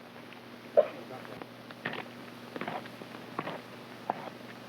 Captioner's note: hoof scraping